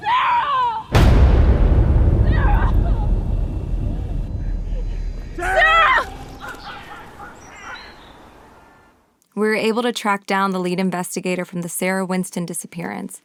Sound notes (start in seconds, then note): 0.9 dramatic music; 5.4 crow cawing